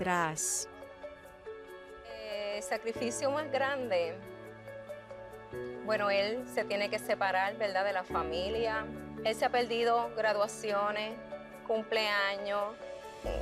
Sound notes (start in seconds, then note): 2.5 speaking Spanish